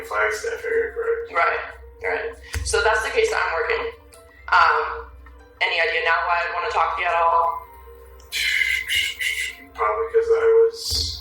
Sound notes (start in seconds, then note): 6.6 exhaling